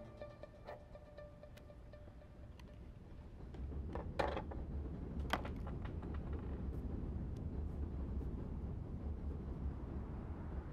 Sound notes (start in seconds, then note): 0.0 music fades out; 4.4 train rumbling distantly